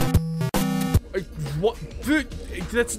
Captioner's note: frustration